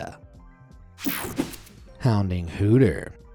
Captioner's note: screen whooshing